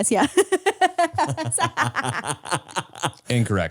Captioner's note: laugh